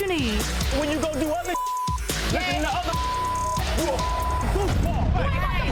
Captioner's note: beeps